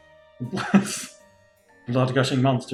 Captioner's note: laughs